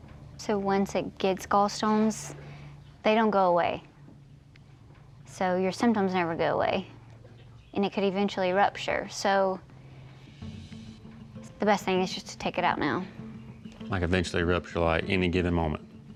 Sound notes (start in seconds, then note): none